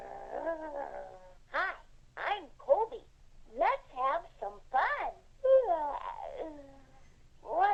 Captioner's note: yawns